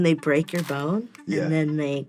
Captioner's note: bone crunching SFX